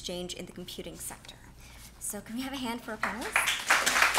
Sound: clapping

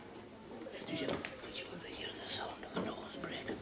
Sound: whispering

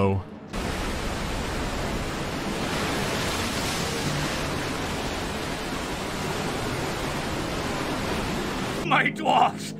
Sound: rushing water

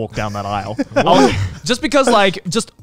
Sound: everyone laughs

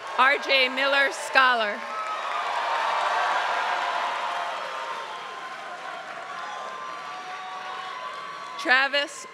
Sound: applause

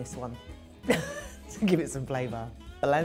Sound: scoffs

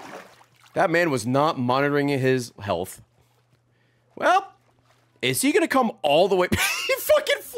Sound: laughs

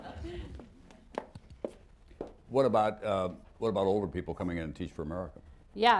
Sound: laughter

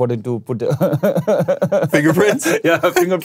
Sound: laughs

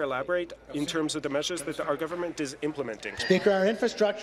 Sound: speaking in French

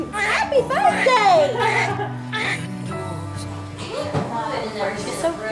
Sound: baby crying

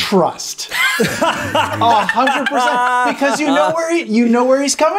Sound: laughing

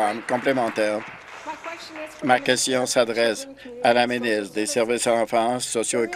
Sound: applause

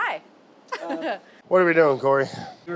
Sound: laughs

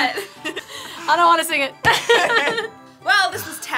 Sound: both laugh

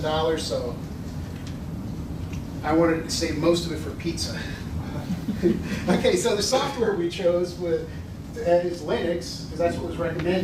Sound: laughter

